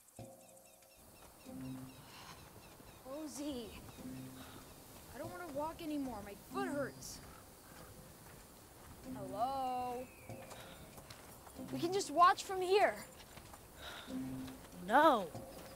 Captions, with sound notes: (bird cawing) Rosie. I don't wanna walk anymore, my foot hurts. Hello? We can just watch from here. - No.